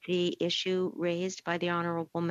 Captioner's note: speaking French